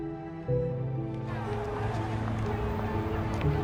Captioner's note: crowd talking